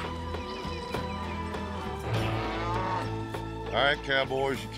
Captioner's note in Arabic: موو الماشية